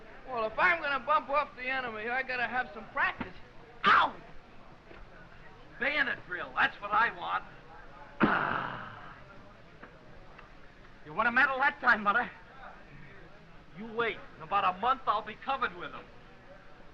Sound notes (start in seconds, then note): 8.2 exclaims